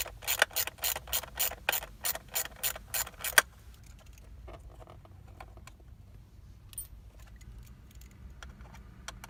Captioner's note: silence